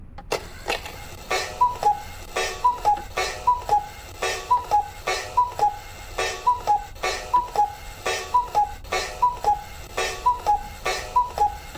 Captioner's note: very loud cuckoo clock